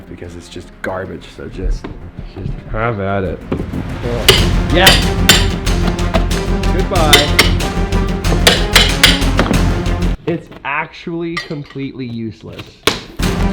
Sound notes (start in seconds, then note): 3.2 suspenseful music; 4.2 hammer banging; 8.6 suspenseful music; 13.2 suspenseful music